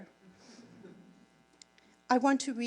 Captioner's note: audience laughing